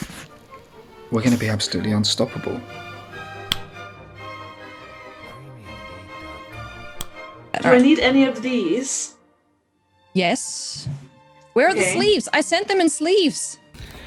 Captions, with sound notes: we're going to be absolutely unstoppable. (dramatic upbeat music) (fingers snapping) - Do I need any of these? - Yes. Where are the sleeves? I sent them in sleeves!